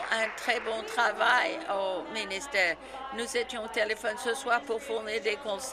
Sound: applause

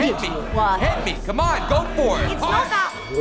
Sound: crowd chanting; mocking voices overlap; bell rings

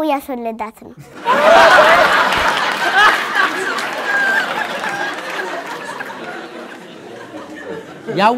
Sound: laughter

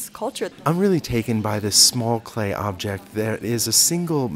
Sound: voiceover

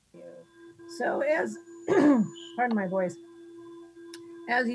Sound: clears throat

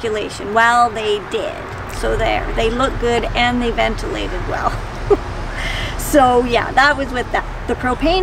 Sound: laughs

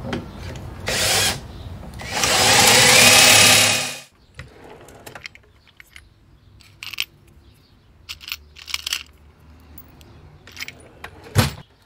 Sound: drill noise

